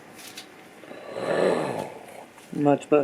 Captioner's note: Darth Vader Growling noise